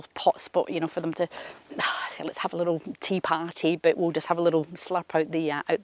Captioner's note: sighs